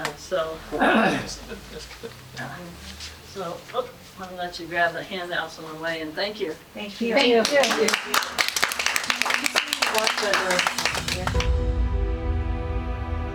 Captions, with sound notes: So, I'm gonna let you grab the handouts in one way, and thank you. Thank you. (crowd applauding) (dramatic music)